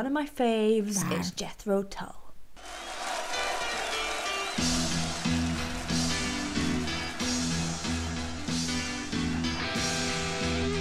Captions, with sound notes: of my faves, it's Jethro Tull. (crowd cheering) (rock music playing) (rock music playing)